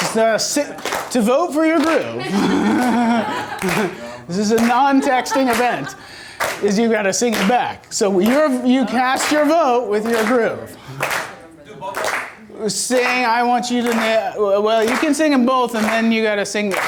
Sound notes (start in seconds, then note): 1.6 laughs; 11.8 voiceover